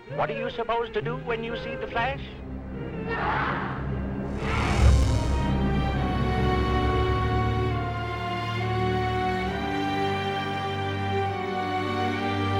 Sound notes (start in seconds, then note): 4.3 distorted buzz; 7.9 slow orchestral music